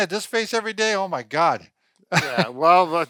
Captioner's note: laughing